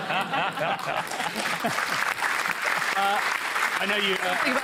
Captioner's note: laughter and applause